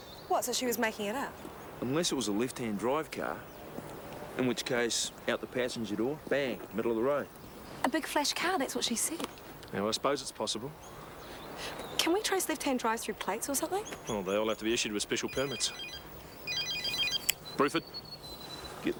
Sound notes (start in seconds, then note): 15.1 phone ringing